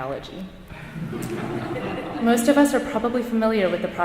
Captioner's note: audience chuckling